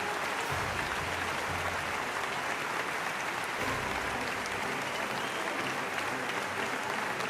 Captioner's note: applause